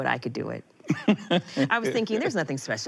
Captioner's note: laughing